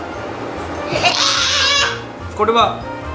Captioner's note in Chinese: 悲鳴